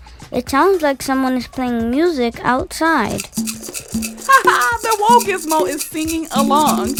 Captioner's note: makes maraca and drum noises